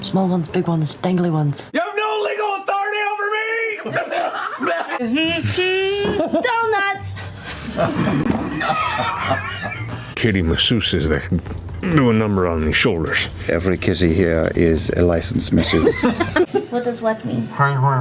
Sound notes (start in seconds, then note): 4.7 pukes; 13.7 very seriously